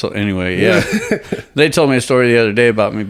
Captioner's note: chuckles